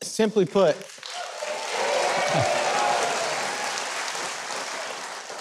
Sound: audience applauding

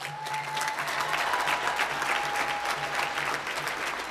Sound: applause

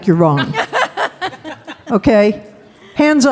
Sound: laughing

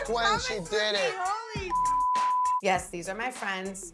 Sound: beep

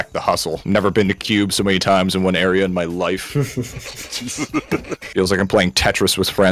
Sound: laughter

